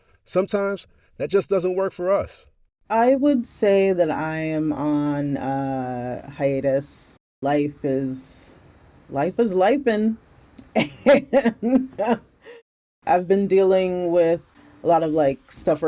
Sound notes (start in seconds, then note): 10.6 laughs